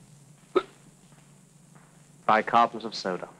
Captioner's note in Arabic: فواق